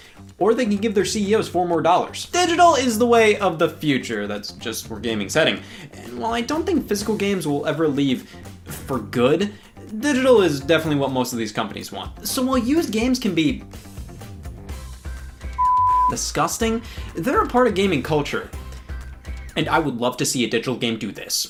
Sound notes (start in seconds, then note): 15.5 beep